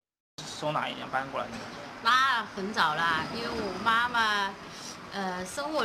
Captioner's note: people speaking in foreign language